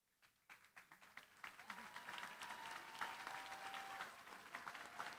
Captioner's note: applause